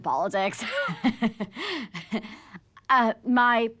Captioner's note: laughs